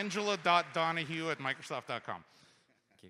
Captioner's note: applause